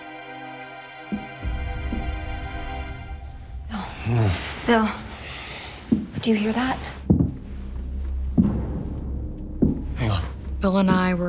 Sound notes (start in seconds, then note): 3.9 he groans; 8.2 thudding gets louder